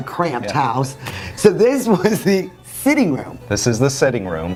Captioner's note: laughs